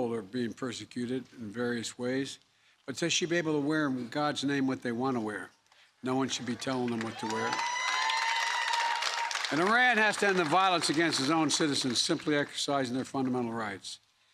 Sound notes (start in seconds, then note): 8.0 applause